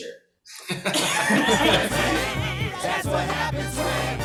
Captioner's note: all laughing